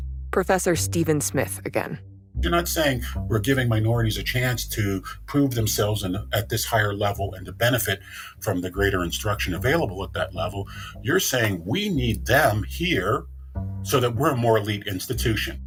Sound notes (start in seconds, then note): none